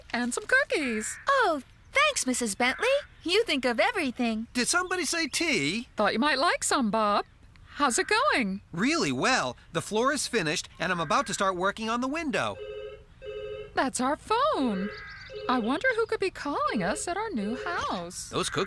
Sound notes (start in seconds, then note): 13.2 phone Rings